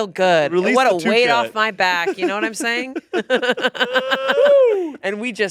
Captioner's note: laughs